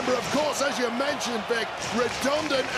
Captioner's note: audience cheering